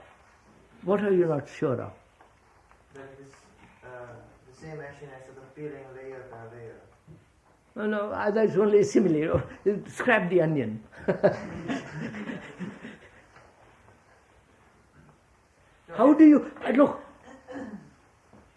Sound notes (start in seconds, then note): 11.0 laughs